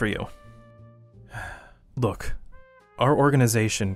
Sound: sigh

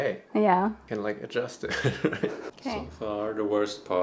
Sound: laughs

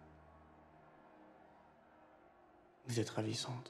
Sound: distant crowd shouting; speaks in foreign language

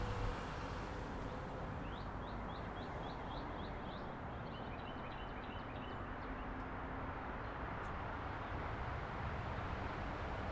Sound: bird calls and traffic noises

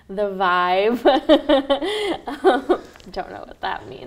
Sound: both laughing

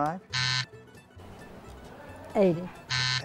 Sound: buzzer

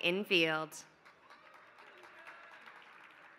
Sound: applause

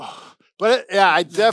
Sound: sighs heavily

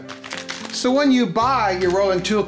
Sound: crumpling plastic

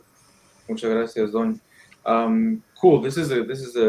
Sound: speaking in foreign language

